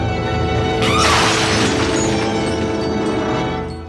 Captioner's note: screams